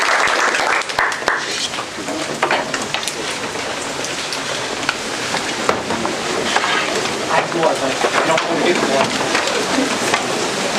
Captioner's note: background chatter